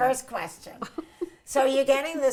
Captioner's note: chuckles